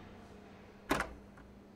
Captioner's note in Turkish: Kapı açılır